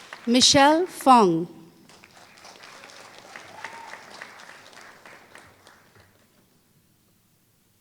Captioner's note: applause